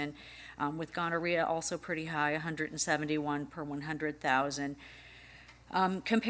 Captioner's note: none